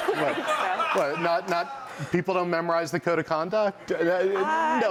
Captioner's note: laughter